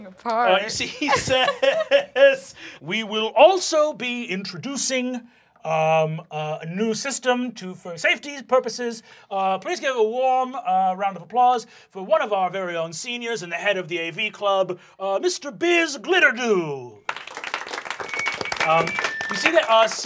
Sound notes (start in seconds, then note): 0.8 chuckling; 17.0 applause; 18.0 screeching mic